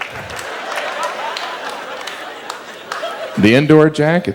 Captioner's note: audience laughs